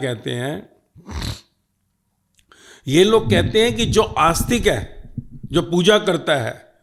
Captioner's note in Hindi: नाक से की जाने वाली आवाज़